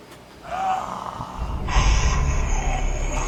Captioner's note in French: Rugissement humain